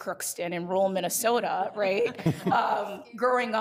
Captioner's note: all laughing